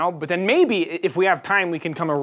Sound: none

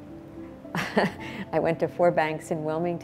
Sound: giggles

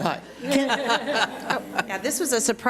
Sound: audience laughs

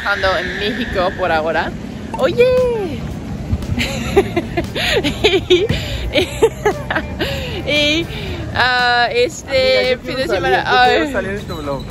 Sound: laughs

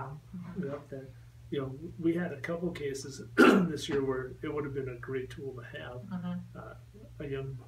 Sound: clears throat

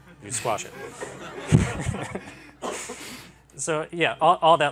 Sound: laughter

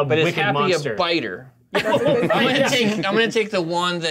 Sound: co-hosts laughing

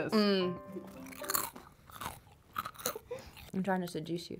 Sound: snack crunching

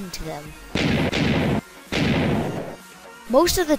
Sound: explosions x3

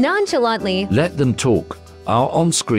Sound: male AI Voice

